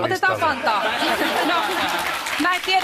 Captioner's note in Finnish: Aplodeja